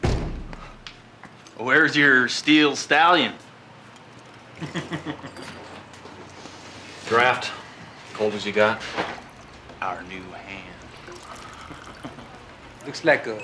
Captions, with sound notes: WHERE'S YOUR STEEL STALLION? ( chucklin ) DRAFT. COLD AS YOU GOT. OUR NEW HAND. LOOKS LIKE A CITY BOY.